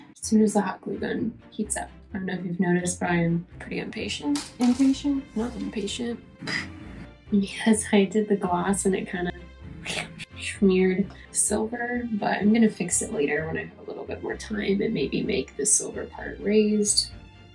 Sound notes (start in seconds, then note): 9.7 nasty mouth noise